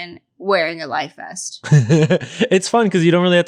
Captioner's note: laughing